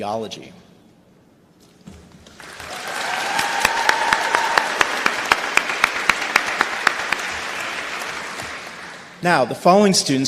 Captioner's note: applause